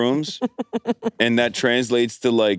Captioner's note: laughs